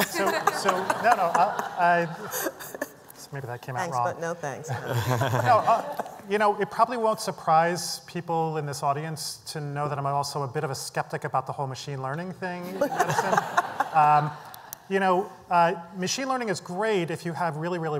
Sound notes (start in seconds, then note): 0.0 laughter; 12.7 laughter